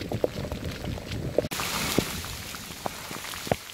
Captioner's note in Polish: szum ulewy